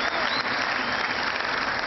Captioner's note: cheering